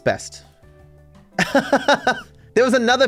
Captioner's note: laughing